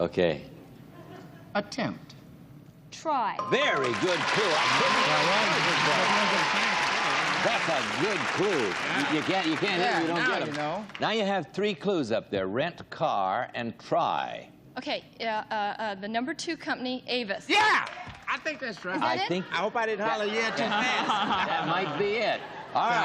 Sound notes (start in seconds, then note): 7.4 applause